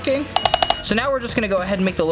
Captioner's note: hammer clanging